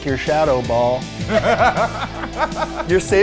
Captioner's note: laughing